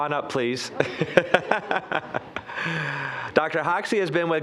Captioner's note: all chuckling